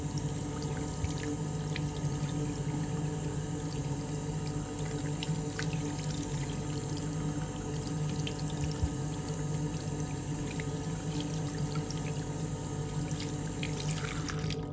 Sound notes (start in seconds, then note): 0.2 water splashing continues; 9.6 water splashing continues